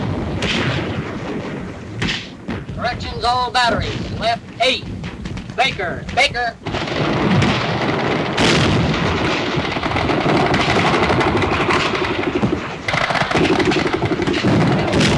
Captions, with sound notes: - Corrections all batteries, left eight. Baker, Baker? (bombs exploding) (guns firing rapidly)